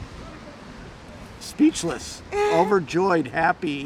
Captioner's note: laughing